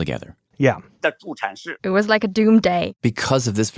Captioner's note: speaking Mandarin